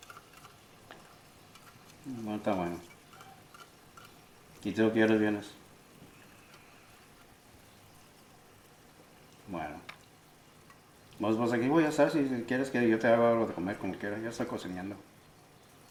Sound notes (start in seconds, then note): 2.0 Spanish; 4.7 Spanish; 9.4 Spanish